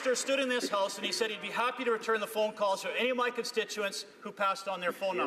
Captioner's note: some Applause